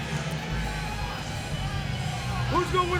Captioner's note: crowd cheering